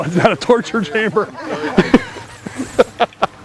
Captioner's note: laughter